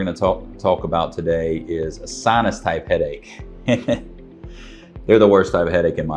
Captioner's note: laughs happily